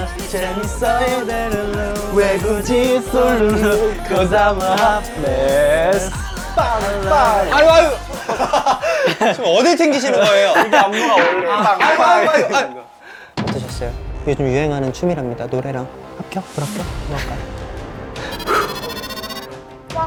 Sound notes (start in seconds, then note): 11.0 bang